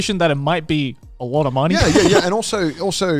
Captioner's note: laughs